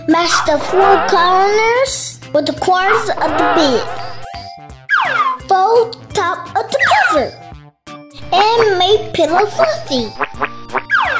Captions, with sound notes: Match the four corners, with the corners of the bed. (slide whistle sliding) Fold top of the cover, and make pillow fluffy.